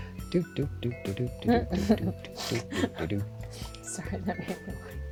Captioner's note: chuckles